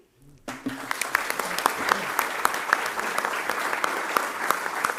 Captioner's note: audience applauding